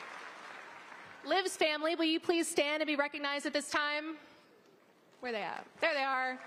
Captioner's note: applause